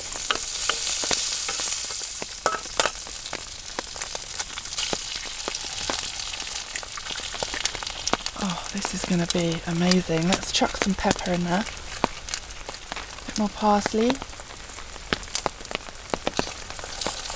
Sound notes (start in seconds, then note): 0.3 sizzle; 2.4 tap tap; 5.6 sizzle